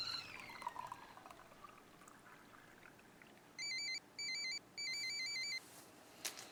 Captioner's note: water sloshing; phone ringing